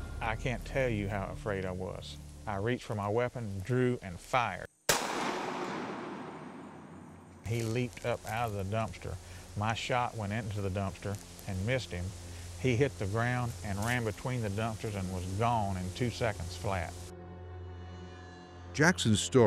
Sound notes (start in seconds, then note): 4.8 gunshot